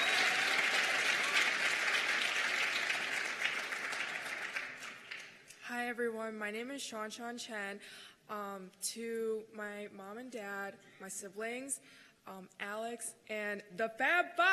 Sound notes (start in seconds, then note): 2.3 cheers and applause